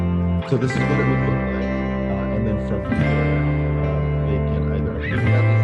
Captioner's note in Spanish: speaks faintly